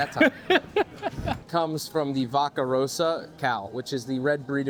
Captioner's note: laughing